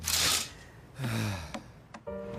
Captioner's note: heavy sigh